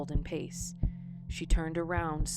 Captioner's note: heartbeat